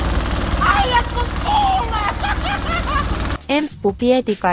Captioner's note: laughs in Finnish